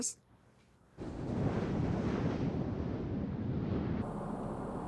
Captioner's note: jet engine whirring